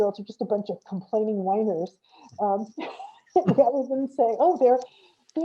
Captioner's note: laughs